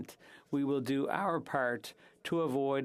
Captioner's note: speaking French